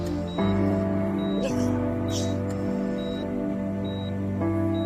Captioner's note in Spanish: Sollozos